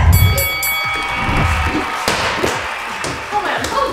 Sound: bell ring; yelling

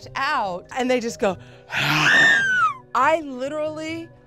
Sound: screams; growls

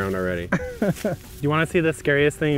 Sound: laughs

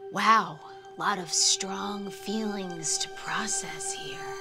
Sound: none

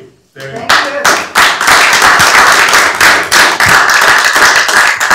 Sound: applause

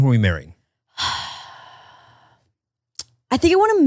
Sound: sighs

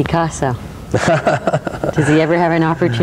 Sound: laughs

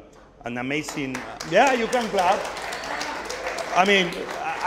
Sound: audience applauding

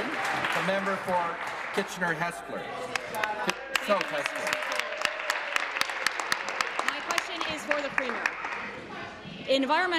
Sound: some Applause

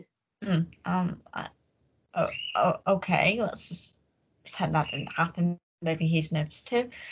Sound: Sid the bird chirps in background

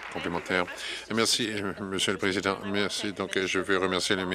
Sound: some Applause

